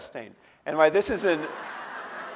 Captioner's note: audience laughing